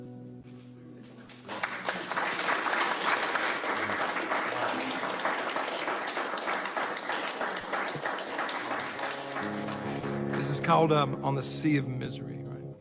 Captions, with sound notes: (audience applauds) - This is called, "On the Sea of Misery."